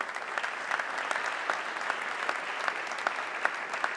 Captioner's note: audience clapping